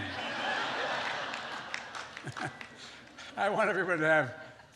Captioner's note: laughter